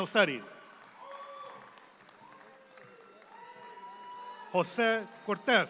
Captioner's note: audience claps